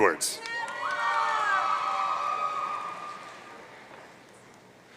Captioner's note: audience cheering